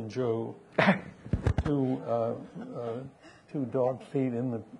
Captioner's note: people chuckling